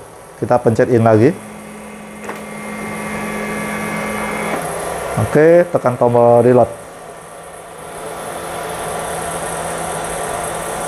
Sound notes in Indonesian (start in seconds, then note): 0.2 suara mesin printer